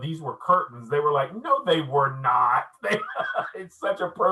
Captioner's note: laughing